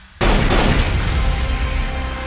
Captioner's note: gun firing; electronic music